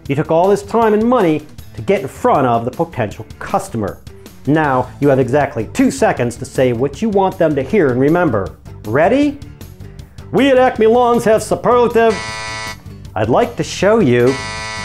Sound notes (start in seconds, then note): 12.1 beep